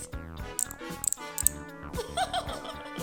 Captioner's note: clicking